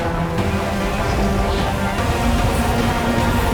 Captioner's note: loud whooshing